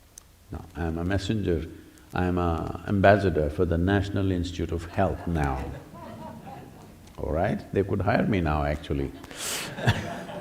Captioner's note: laughter